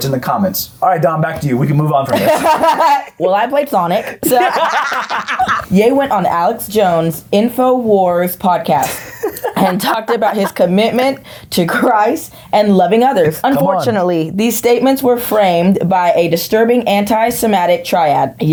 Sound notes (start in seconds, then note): 4.0 laughing; 4.0 both laughing